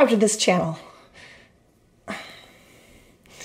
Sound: sharp sigh

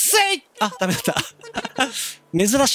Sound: giggle

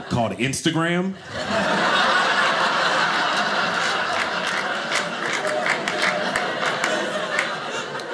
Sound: audience laughing

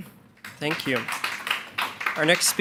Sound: attendees clapping

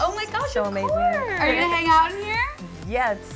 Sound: laughs

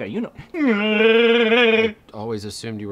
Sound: Chewbacca roar

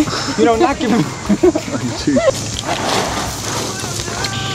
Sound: laughing

